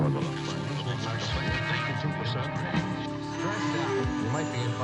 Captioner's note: radio murmuring